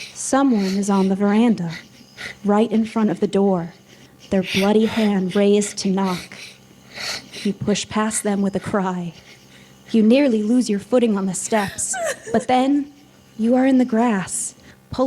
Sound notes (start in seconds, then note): 11.8 sobbing